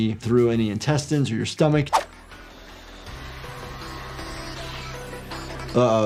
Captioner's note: energetic music; air whooshing